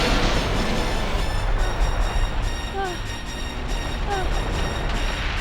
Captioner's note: moaning